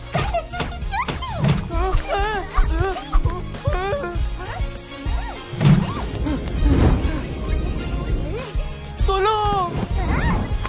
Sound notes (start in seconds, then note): 1.6 grunting determinedly; 2.0 yelping; 4.2 angry huff; 6.2 panting; 7.4 huffing angrily; 9.6 angry huff